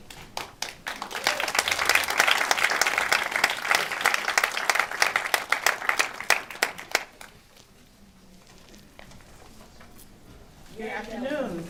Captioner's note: applause